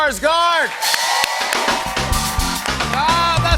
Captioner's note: cheers and applause